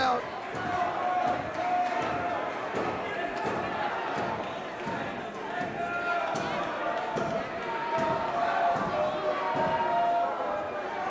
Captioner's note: crowd chatter